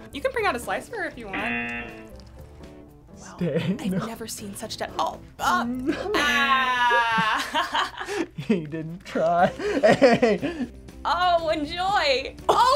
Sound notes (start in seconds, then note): 1.3 buzzer buzzes; 7.7 laughs